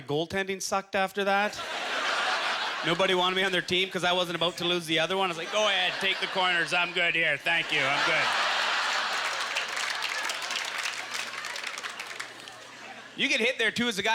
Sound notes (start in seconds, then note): 9.0 audience laughter; 9.5 applause